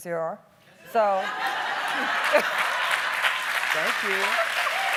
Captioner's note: applauding